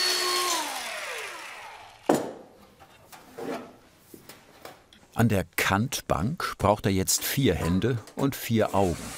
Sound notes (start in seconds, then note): 1.0 saw falls silent and is put down